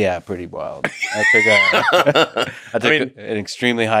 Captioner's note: Elon laughing